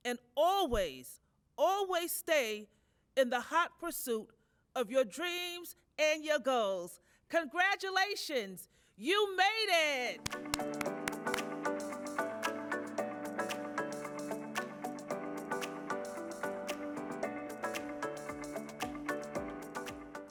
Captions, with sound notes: and always, always stay in the hot pursuit of your dreams and your goals. Congratulations. You made it. (hands clapping) (bright music)